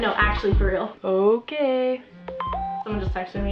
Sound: text alert

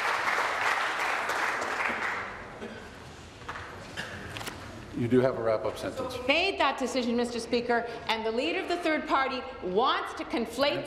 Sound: applause

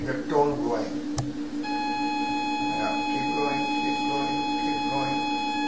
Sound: high pitched tone from machine

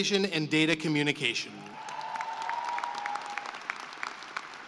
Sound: cheering and applause

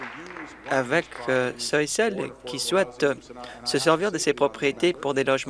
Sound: applause

